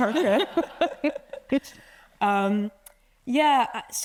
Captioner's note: attendees laughing